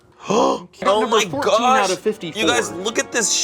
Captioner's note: gasps